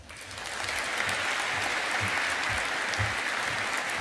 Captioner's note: audience applauding